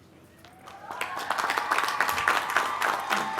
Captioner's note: applause